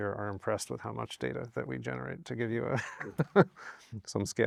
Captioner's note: laughs